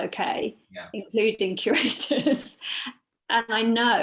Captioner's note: laughs